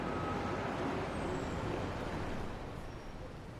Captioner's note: none